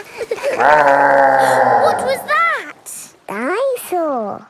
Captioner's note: gasps; laughing; growling